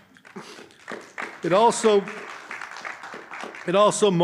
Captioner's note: audience applauding